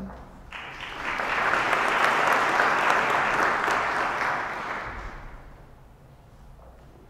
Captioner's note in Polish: oklaski